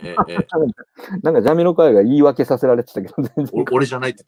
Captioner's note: laughs